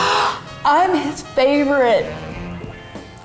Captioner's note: deep sigh